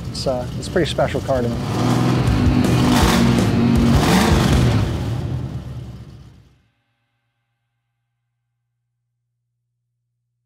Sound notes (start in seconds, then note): 1.5 rock music; 2.3 engine revving